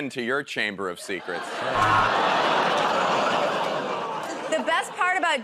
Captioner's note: audience groans